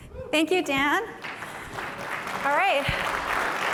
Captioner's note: applause